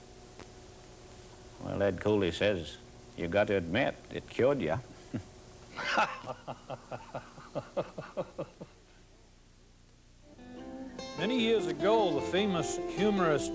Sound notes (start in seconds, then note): 5.7 men laugh; 10.4 banjo music plays